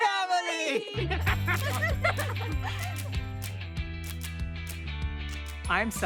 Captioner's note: family laughing; optimistic music